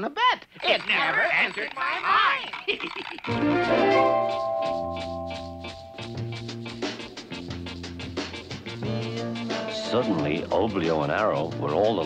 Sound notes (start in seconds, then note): 0.5 laughs; 3.3 chiming music